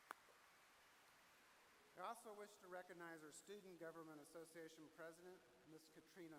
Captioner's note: applause